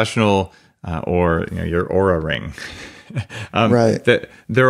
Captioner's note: laughs